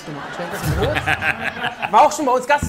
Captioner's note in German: Gelächter, Durcheinanderreden